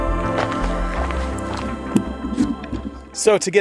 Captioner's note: footsteps crunching; gear rustling